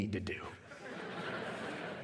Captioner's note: laughter